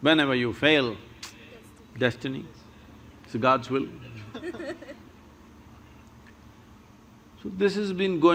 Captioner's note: few laugh